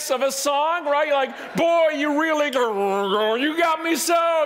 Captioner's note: grumbled voice